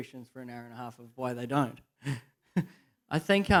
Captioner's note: laughs